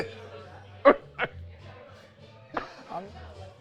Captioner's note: both laughing